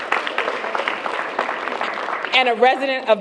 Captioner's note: applause